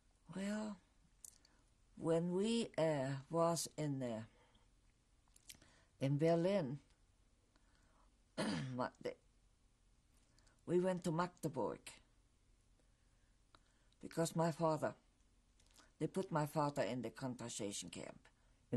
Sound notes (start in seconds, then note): 11.9 pauses for 3 seconds